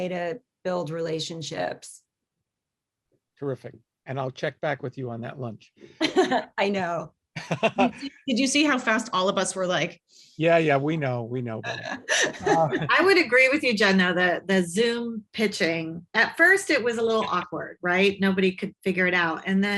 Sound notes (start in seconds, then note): 7.4 laughing